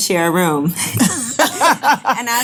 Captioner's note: laughing